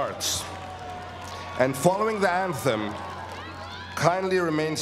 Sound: applause

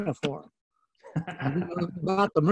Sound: laughing

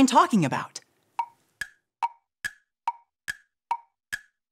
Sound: clock ticking

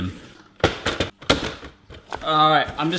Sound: slamming

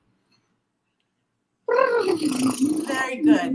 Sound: lip-trilling

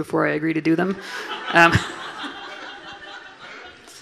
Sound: everyone laughing

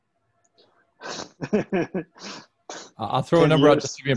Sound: laughs

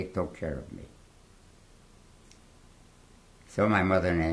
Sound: pauses for 3 seconds

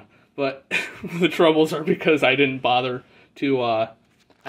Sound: laughs slightly

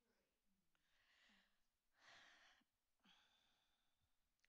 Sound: sighs

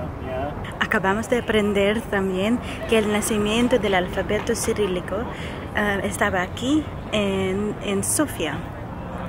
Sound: Spanish

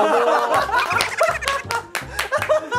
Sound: haha

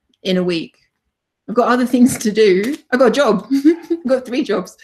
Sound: chuckles

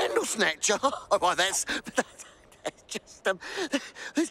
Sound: laughs

